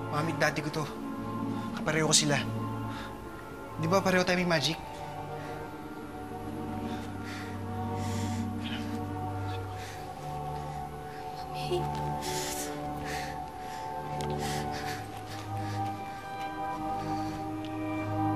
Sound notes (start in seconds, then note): none